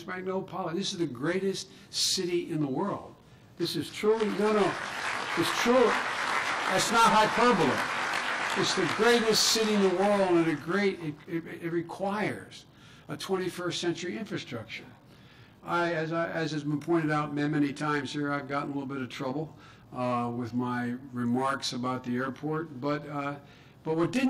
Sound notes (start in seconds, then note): 4.0 clapping